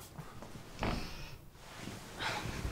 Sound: creak

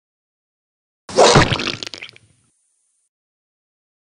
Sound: sound of sword

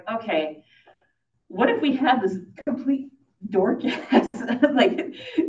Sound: laughs

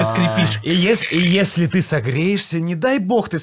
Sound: imitates creaky sounds

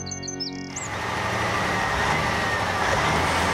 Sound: engine Running

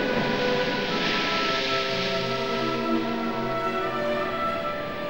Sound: crashing waves

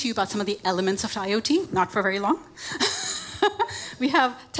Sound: laughs

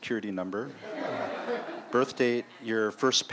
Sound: laughter

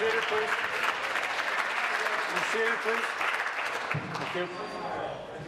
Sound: applause

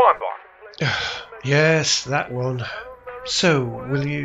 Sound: sighing

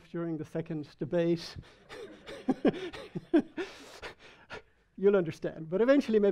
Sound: audience laughing

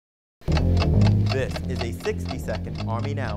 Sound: bass guitar playing; clock ticking

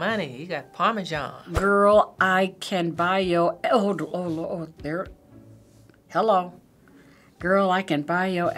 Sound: stammering

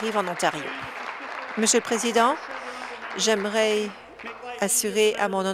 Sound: applause

